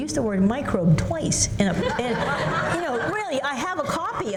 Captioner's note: laughter